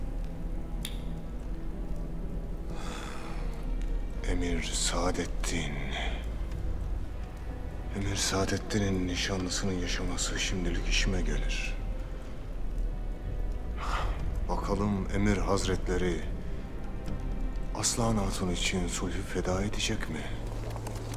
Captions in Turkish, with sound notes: (Tokat sesi) Emir Sadeddin. Emir Sadeddin'in nişanlısının yaşaması şimdilik işime gelir. Bakalım Emir Hazretleri... ...Aslıhan Hatun için sulhu feda edecek mi?